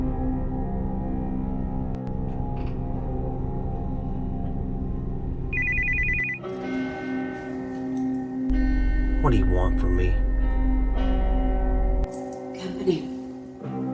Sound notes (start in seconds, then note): 0.1 dark music; 5.5 phone rings; 6.7 dark music